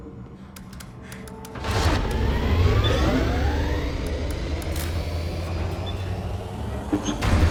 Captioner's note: elevator powers on; buttons clacking; elevator whirring